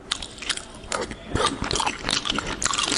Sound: extremely loud mouth food

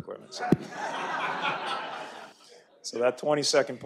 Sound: audience laughter

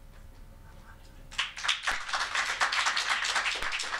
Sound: applause

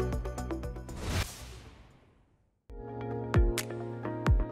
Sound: logo whooshes; upbeat music ends; gentle upbeat music begins

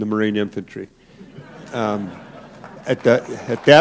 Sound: laughter

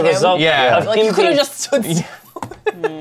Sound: laughs

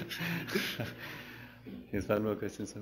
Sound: pause; laughs

